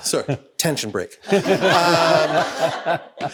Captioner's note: everyone laughing